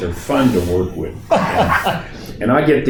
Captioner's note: laughing